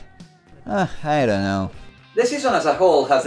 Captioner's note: sighs